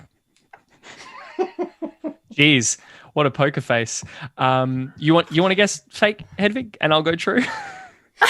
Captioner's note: laughs